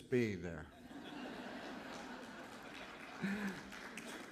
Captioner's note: laughter